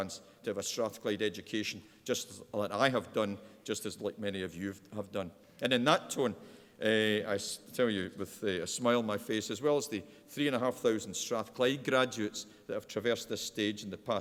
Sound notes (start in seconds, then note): none